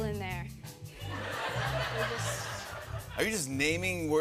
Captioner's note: laughter